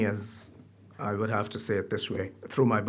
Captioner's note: speaks foreign language